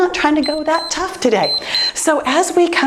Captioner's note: timer beeps